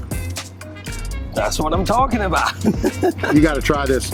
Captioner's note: laughs